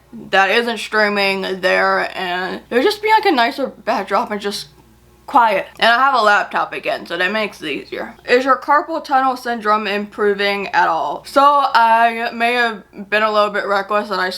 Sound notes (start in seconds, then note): none